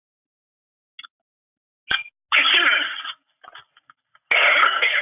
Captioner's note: coughs